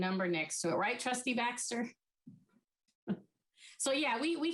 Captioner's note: chuckles